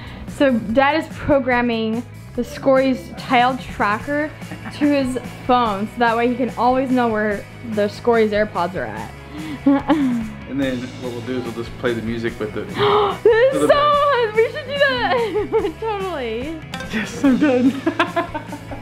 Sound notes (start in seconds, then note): 9.4 laughs; 12.7 gasps; 15.9 laughs